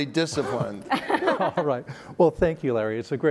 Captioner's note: laugh